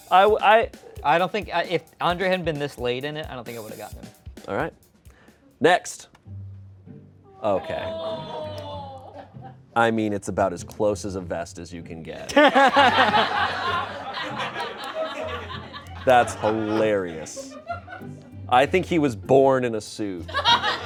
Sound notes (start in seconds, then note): 7.5 crowd exclaims; 12.2 laughter